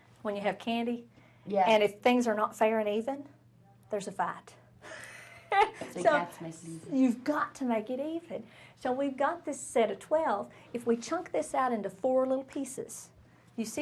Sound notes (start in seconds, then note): 5.0 laughs